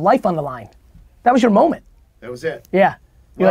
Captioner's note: pat